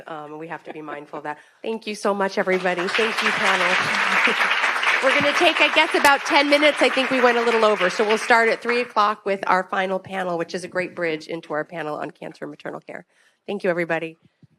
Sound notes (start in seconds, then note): 4.1 attendees clapping